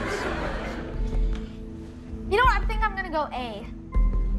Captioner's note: laughter